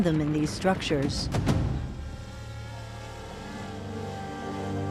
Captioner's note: drone buzzing